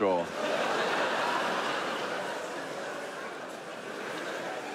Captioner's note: audience laughs